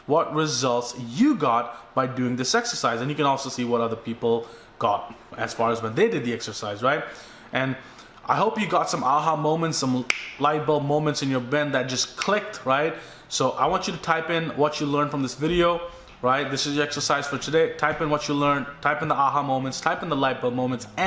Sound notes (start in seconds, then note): 10.1 snaps; 12.5 snaps